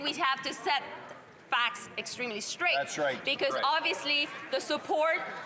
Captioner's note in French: voix de l'interprète